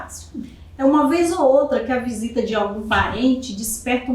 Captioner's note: speaking portuguese